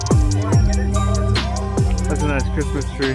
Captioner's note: people chattering